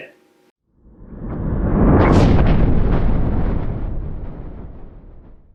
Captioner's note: rumbling